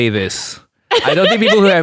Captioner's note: laughs